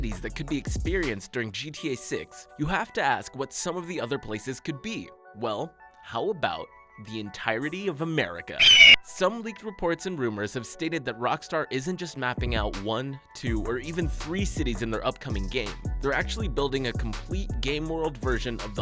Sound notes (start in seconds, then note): 8.6 eagle screeches